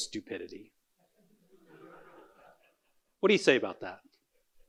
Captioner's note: audience laughing